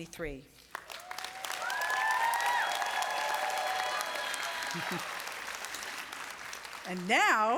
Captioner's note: applause